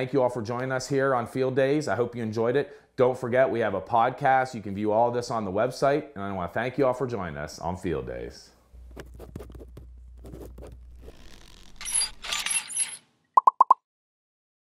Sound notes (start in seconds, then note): 10.1 scribbling; 11.6 metal squeaking; 13.4 popping